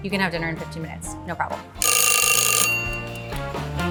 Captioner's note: timer dinging; jazzy music